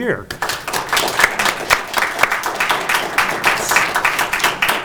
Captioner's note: audience applauding